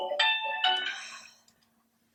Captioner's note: alarm clock stops ringing